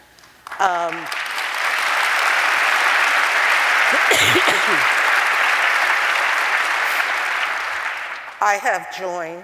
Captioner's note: applause